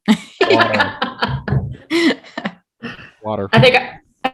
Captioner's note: all laughing